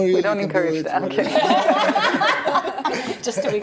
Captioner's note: laughing